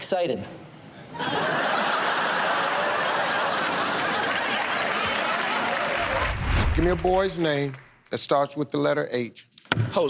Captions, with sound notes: Excited. [ Laughter ] [ Applause ] Give me a boy's name that starts with the letter H.